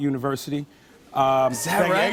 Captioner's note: cheers and applause